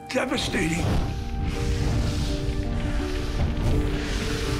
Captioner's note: fire roaring